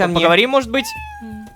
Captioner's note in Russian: Мяуканье